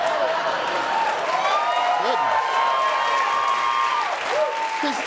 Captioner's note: cheering, applause